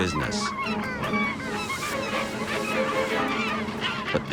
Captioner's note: birds squawking